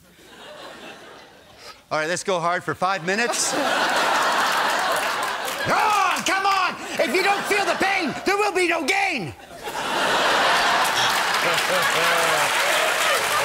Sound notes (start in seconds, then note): 5.4 yelling